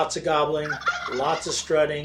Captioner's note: turkey gobbles